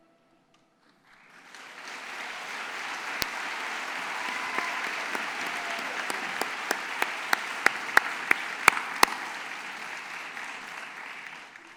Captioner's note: applause